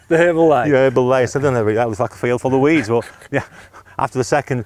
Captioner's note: laughs